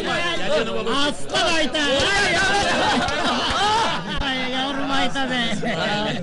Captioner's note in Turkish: gülerler